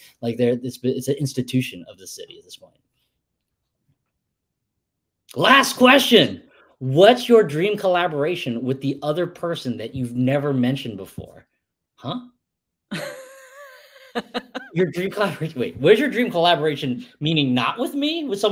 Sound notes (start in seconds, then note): 12.9 laughs